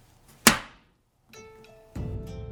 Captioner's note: slap